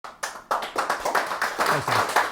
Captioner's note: audience clapping